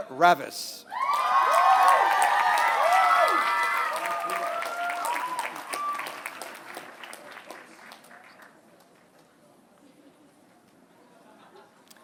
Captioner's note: applause